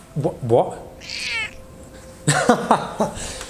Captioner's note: cat meowing; laughs